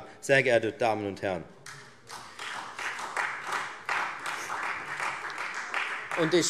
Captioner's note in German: Beifall